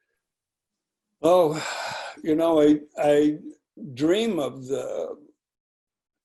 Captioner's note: exhaling loudly